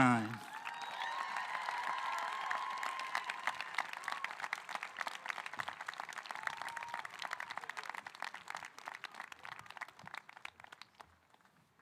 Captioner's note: applause